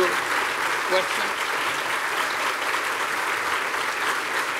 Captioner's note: applause